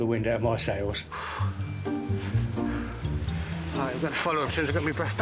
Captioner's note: exhales